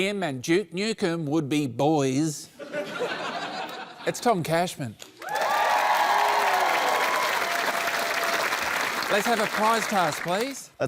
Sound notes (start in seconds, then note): 5.1 applause